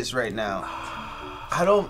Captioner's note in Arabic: يتنهد